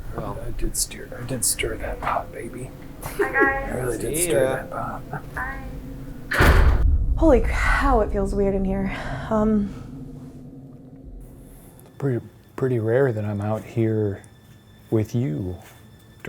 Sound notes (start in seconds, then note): 6.4 door bangs